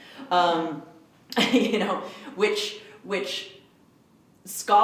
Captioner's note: laughs